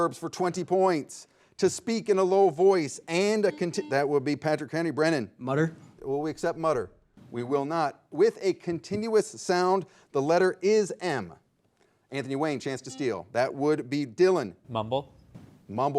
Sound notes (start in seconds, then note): 3.1 soft buzzing